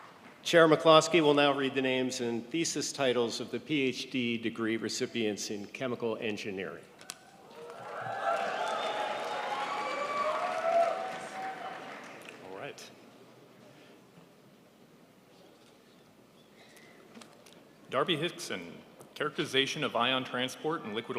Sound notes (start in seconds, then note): 8.9 crowd applauds